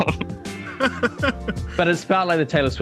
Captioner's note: laughs